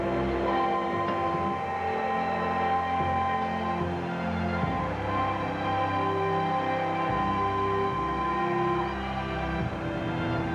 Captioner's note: steel ringing; train whistling